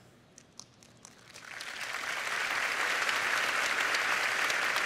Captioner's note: applause